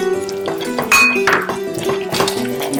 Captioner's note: stirring